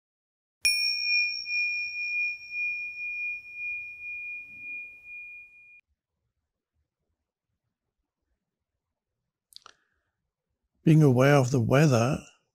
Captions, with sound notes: (singing bowl ringing) - Being aware of the weather,